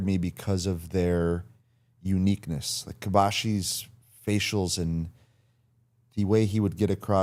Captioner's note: none